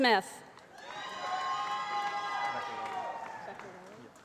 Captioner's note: applause